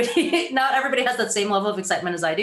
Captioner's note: giggles